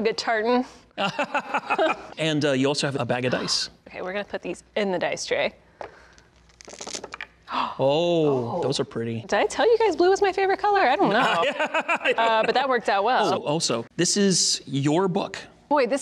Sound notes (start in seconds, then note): 1.0 laughing; 7.0 roll clacking; 7.5 gasping; 11.0 laughing